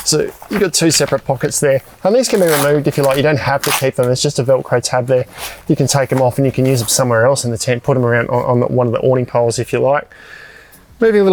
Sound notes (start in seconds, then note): 2.1 velcro tearing